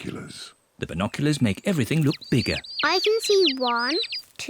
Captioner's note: chirping